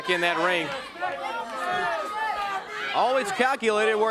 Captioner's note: crowd cheering